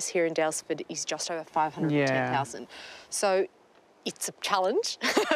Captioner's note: chuckles